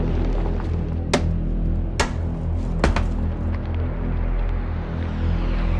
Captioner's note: rifle banging on door